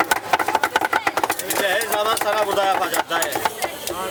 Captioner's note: indistinct chatter